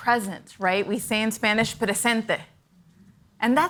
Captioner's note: foreign language